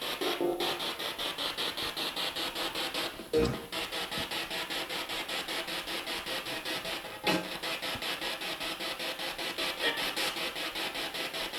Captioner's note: sound of the Spirit Box in the background